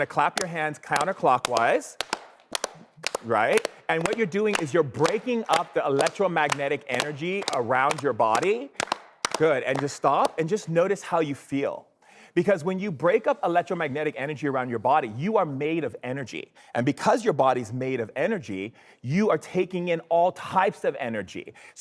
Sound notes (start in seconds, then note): 2.1 audience claps